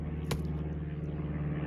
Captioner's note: splat